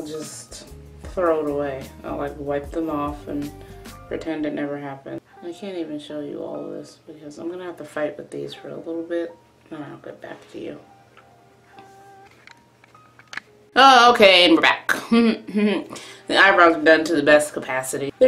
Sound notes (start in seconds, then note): none